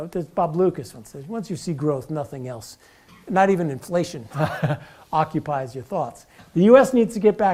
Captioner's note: laugh